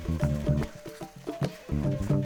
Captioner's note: footsteps on grass